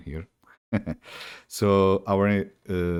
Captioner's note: chuckles